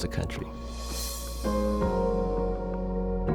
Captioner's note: air whooshing; bright upbeat music